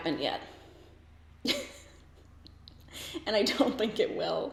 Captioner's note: laughs